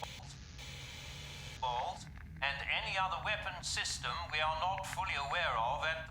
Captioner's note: statics